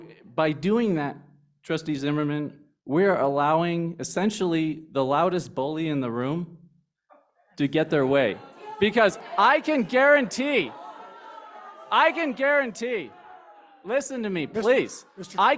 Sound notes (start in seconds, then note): 10.3 groaning